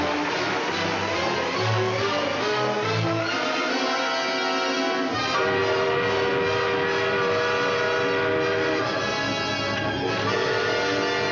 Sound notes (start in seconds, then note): 5.3 alarm blaring; 8.1 intense music